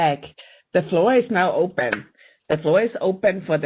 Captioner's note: clapping